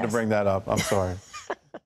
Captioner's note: laughing